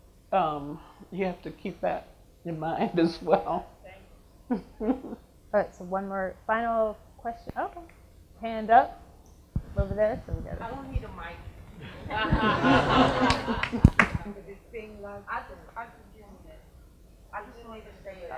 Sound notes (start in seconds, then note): 11.8 audience laughs